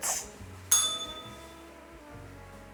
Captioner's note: bell rings